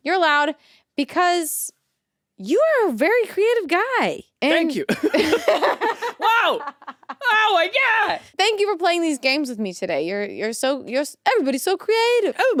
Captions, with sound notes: - You're allowed because you are a very creative guy. - Thank you. (both laugh) Wow, oh, my God. - Thank you for playing these games with me today. Everybody's so creative-